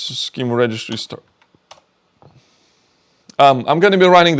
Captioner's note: keyboard clicking